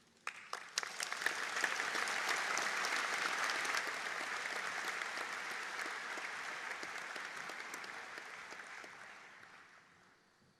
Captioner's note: audience Applause